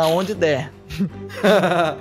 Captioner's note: laughs